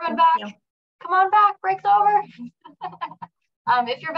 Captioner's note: laughs